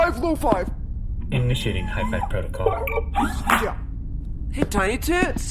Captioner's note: electronic beeping, high-five noises